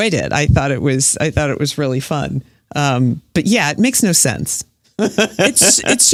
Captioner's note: laughs